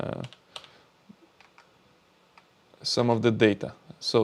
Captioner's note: keyboard clicking